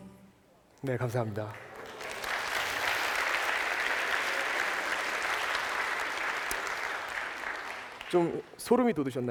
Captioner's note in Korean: 박수